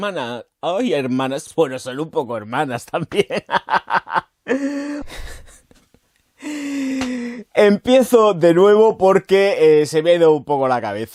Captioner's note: laughs